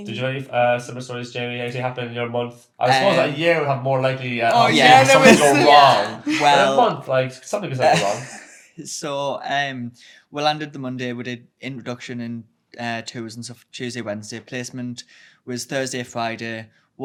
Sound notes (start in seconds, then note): 7.8 laughs